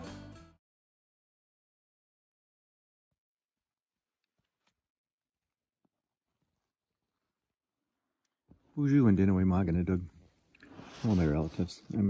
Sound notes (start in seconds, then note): 2.8 fabric rustling; 9.0 foreign language